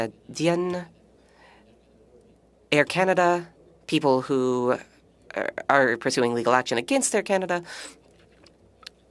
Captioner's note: speaking French